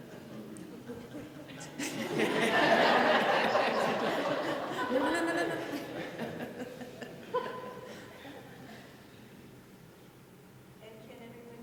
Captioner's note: laughter